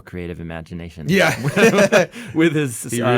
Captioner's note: laughs